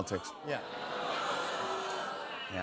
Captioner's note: audience boos